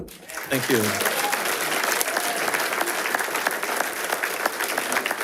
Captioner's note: attendees applauding